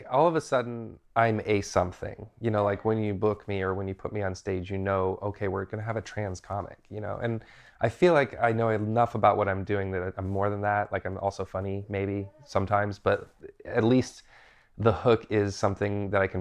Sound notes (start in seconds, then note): none